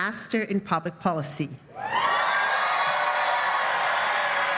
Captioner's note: applause